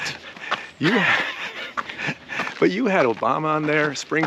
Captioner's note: laughs